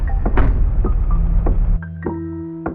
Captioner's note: door slams